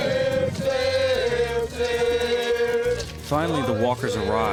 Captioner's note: chanting